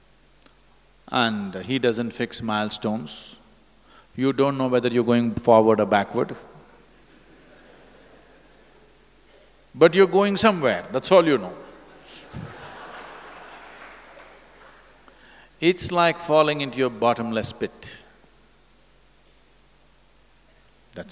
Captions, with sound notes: and he doesn’t fix milestones. You don't know whether you are going forward or backward but you are going somewhere, that's all you know (Laughter) (Laughs). It's like falling into a bottomless pit.